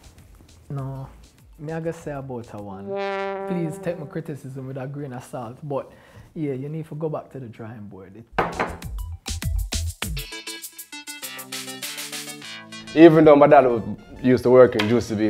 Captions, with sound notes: No. Me I guess say about a one. (horn blows) Please take my criticism with a grain of salt, but yeah, you need to go back to the drawing board. (upbeat music) - Even though my dad used to work in juicy beef,